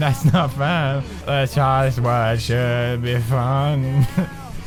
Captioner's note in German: kichert